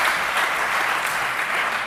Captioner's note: applause